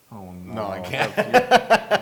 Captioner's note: laugh